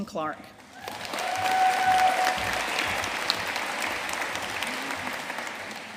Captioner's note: audience cheering and applauding